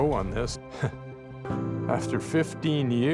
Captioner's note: chuckles